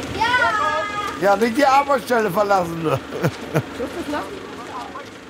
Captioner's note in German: lacht